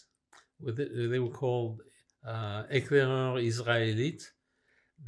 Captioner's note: french